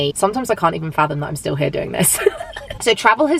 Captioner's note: laughs